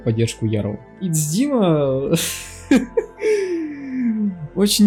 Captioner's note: hysterical laughter